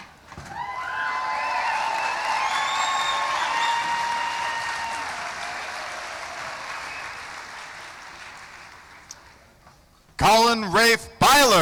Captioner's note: cheering; applause